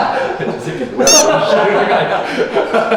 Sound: laughing

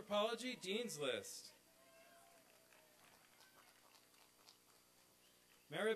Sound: applause and cheering

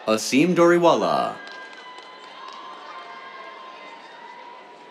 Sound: applause

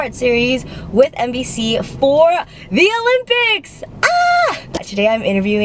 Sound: screams

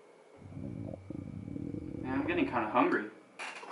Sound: grumble grumble

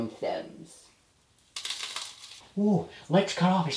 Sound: cigar crunching

